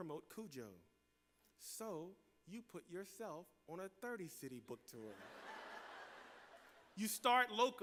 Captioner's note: laughter